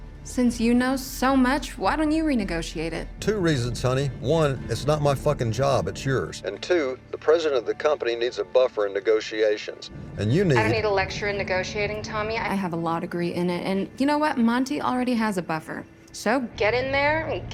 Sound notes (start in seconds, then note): 10.1 on phone